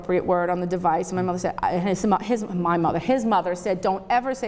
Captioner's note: stutters